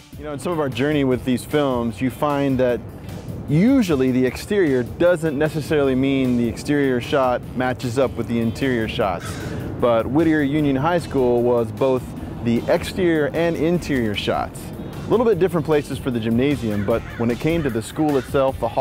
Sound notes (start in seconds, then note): none